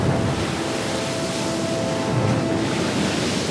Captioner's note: waves crashing